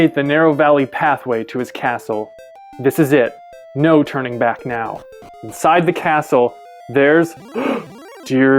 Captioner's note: gasp